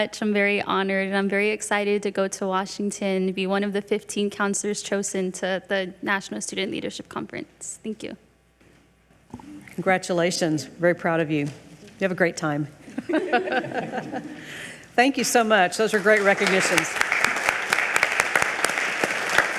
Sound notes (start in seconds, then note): 13.0 all laugh; 15.8 all applaud